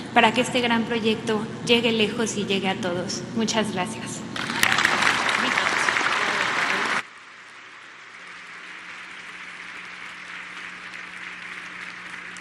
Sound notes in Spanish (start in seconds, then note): 9.2 aplausos